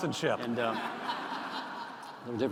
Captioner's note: laughter